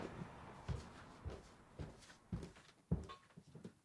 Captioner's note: footsteps thud